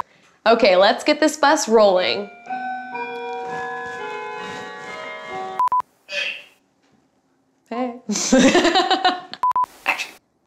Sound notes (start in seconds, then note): 2.2 doorbell rings; 8.2 laughs